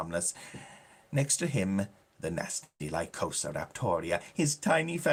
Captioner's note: foreign language